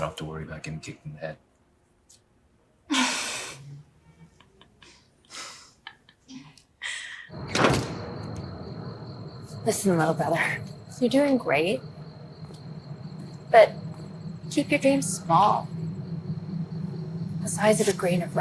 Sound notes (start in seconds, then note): 5.3 both chuckling